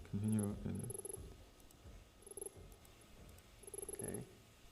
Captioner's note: text beeping